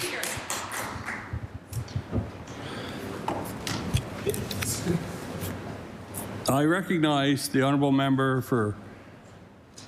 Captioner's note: applause